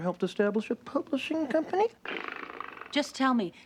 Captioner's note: purring